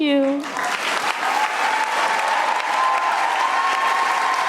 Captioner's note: audience cheering